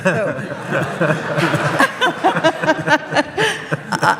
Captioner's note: audience laughs